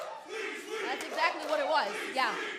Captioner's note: fans chanting